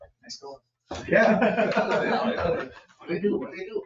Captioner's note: laughs